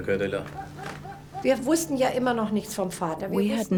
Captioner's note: speaks in foreign language